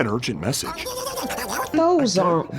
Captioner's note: chittering